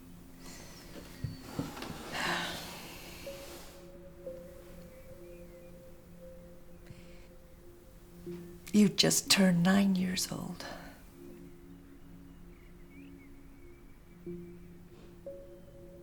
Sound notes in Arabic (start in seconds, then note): 2.0 تنهدات